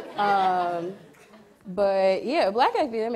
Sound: audience laughs

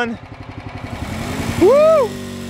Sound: machine whirring

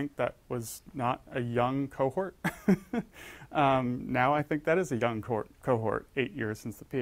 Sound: laugh

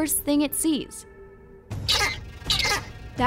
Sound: raptor chirps

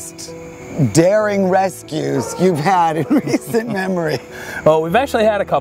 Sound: laughs

